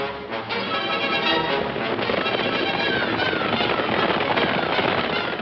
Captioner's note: horse hooves clomping